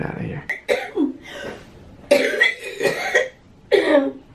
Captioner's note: coughing